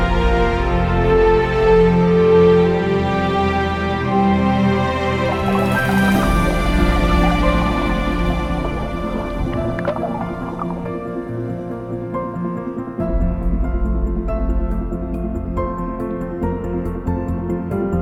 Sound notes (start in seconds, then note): 6.7 bubbles